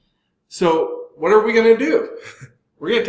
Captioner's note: laugh